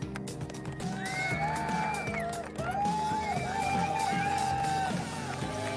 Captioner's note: cheering